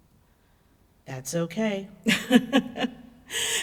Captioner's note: laughs